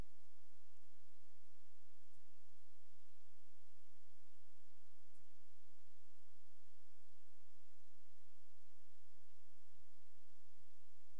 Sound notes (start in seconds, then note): none